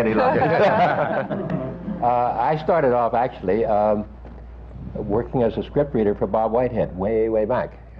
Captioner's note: laughter